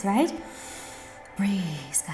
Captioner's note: breath